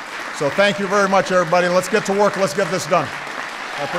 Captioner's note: applause